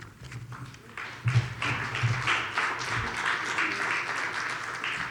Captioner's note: audience applauds